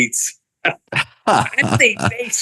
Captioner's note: laughing